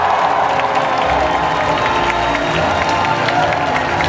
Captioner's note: audience applauding